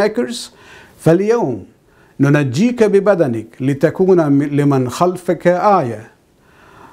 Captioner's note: arabic